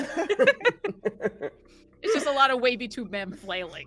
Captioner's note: everyone laughs